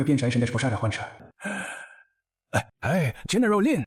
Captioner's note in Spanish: Suspiro